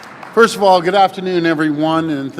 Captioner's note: applause